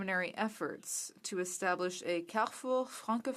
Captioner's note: speaking french